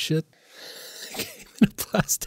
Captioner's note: laughs